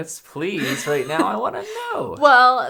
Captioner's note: laughs